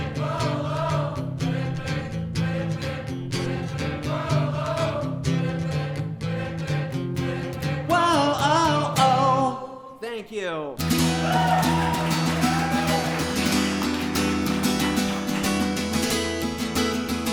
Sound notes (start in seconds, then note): 10.8 guitar strumming; 10.8 audience cheering